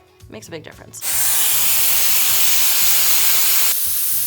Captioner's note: dryer whirs